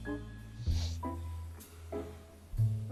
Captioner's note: sniffles